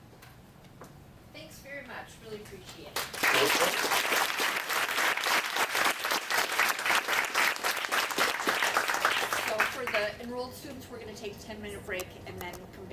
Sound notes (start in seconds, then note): 2.9 audience Clapping; 5.0 clapping